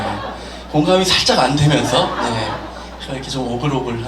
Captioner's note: chuckles